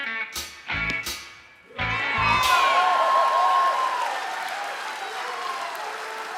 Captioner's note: audience cheering